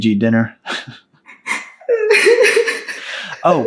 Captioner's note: Amber sobs